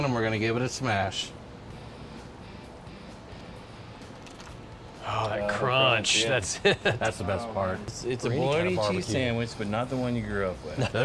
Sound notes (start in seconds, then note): 4.2 Fritos crunching